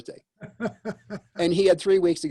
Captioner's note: laughs